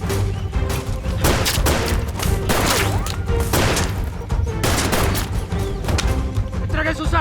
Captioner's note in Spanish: Disparos